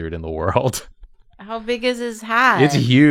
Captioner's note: chuckles